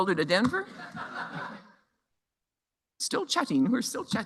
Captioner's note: laughter